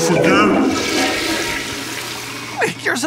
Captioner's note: toilet flushing